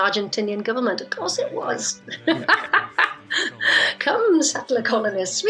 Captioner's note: laughs